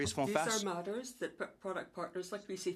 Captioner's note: speaking French